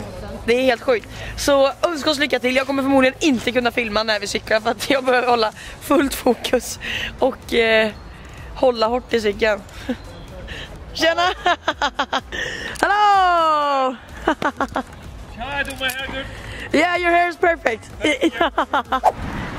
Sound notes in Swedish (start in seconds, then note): 11.1 Skratt; 14.2 Skratt; 17.0 Engelska; 18.0 Skratt